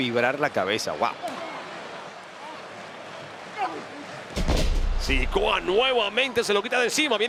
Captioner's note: applause